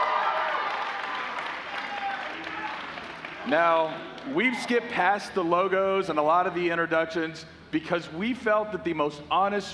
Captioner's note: cheers and applause